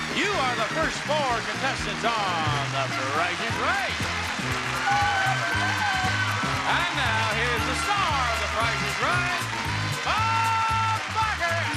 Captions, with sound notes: You are the first four contestants on The Price Is Right. (upbeat music) (audience cheering) And now here is the star of The Price Is Right, Bob Barker.